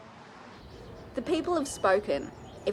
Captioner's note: voiceover